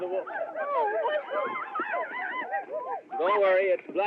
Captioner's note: whooping